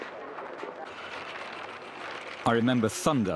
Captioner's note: paper rustling